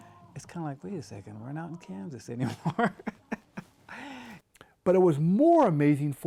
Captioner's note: laughing